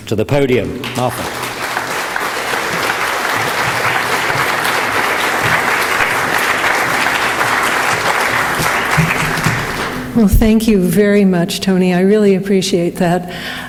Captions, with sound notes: to the podium, Martha. (audience applauding) - Well, thank you very much Tony, I really appreciate that.